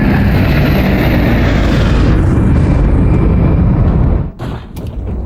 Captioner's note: engine revving